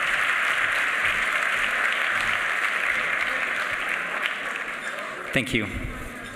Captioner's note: applause